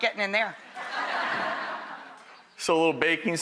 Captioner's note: audience laughs